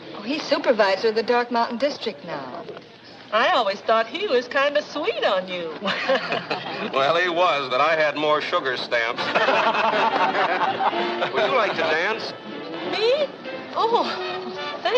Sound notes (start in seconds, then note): 9.1 group laughs